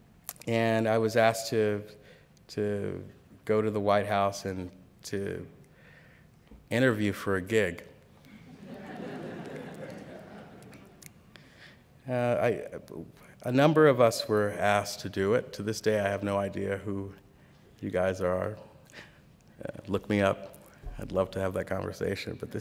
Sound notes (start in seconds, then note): 8.2 laughter